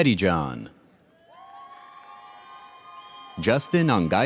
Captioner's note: audience cheers